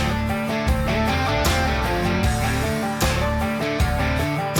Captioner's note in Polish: Aplauz